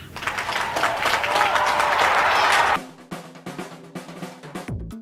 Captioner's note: audience applauding